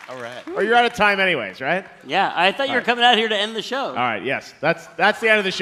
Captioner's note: applause